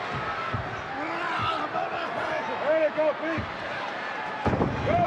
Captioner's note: wrestlers grunting